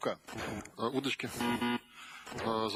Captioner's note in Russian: пи-пи